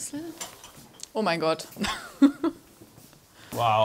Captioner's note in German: lacht